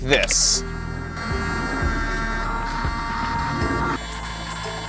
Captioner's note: motor whirring